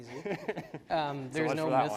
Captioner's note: laughs